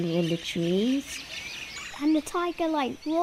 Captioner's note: jungle animals calling